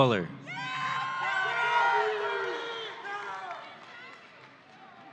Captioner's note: audience cheering